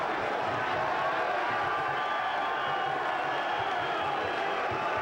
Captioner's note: crowd cheering